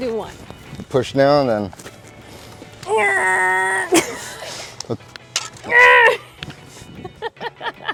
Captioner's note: grunting sounds; laughing